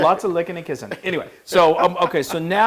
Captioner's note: laugh